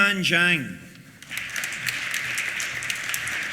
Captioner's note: applause